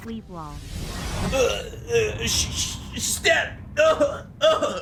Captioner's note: groaning